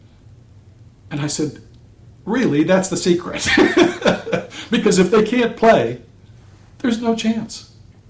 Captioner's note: laughter